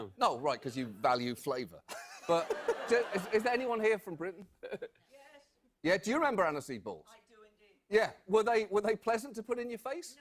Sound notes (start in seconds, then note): 2.1 audience laughter